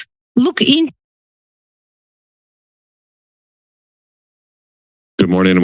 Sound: silence

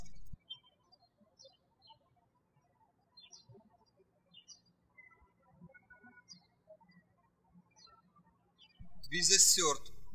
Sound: birds chirping

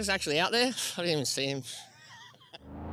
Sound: laughter; jetboat sounds

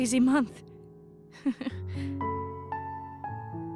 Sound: chuckles

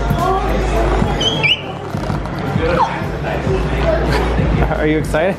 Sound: upbeat music; squeaking

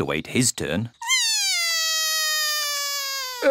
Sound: cries

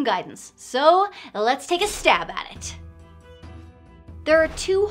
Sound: metallic sound

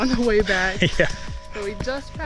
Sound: chuckles

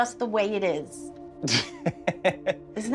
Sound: laughs

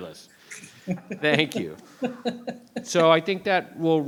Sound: laughing; laughs

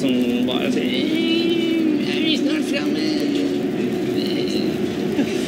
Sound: whines

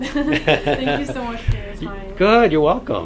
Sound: laughs

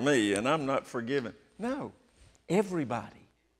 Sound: none

